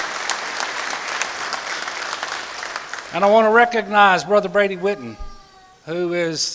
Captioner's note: applause